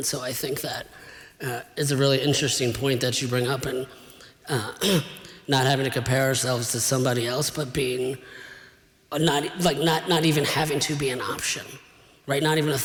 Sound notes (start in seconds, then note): 4.8 clears throat